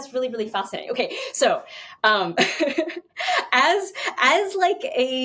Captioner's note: chuckles